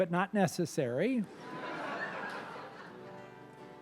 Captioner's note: laughter